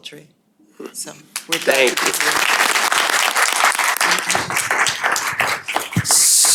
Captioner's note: applause